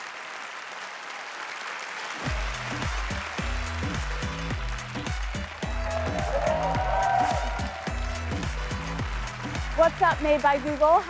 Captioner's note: applause